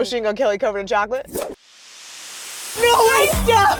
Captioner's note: swoosh